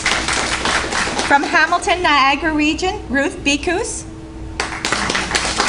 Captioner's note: applause; applause